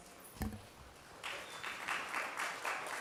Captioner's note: applause